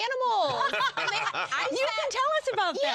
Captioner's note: laughter